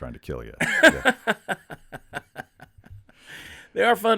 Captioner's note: Chad laughing